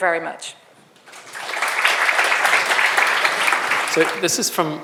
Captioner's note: audience applauds